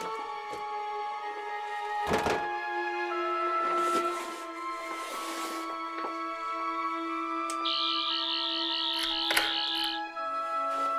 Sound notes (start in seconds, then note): 1.6 knocking on bedroom door; 7.6 buzzing; 8.9 unlocking door sound